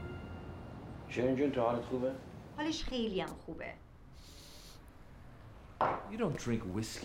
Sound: foreign language

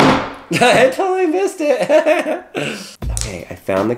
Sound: laughs

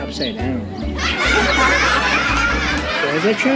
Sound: laughing sound track

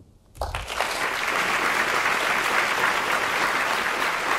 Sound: students applauding

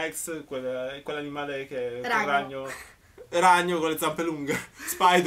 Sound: explaining in italian

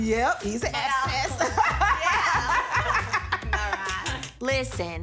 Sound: all laugh

